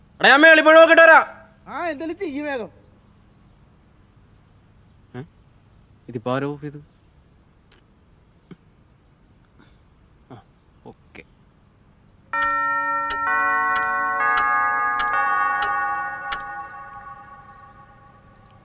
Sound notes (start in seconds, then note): 12.3 bell chimes